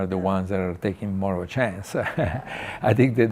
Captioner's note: chuckles